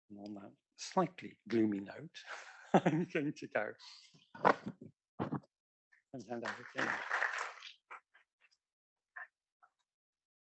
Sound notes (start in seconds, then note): 2.6 laugh; 6.4 applause